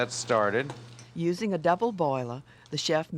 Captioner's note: voiceover